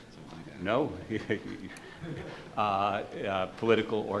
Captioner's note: overlapping chatter